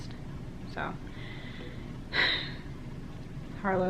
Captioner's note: sighs